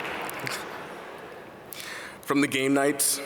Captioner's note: audience laugh